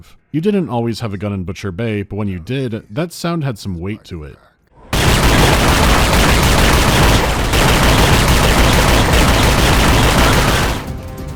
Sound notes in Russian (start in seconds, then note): 4.9 гулкий, пронзительный, размеренный автоматический огонь